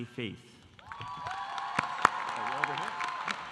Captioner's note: audience applauding